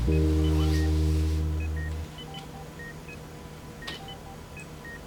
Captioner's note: monitors Beeping